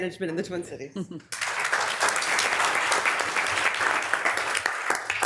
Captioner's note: members applauding